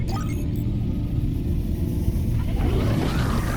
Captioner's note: engines ramping up